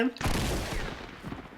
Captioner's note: gunfire